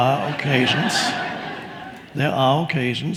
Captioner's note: audience laughing